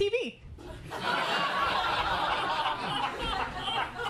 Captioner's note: laughter